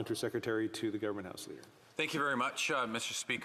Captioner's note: speaking French